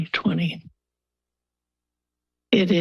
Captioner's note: pause